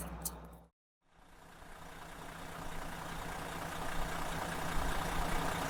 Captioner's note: engine vibrating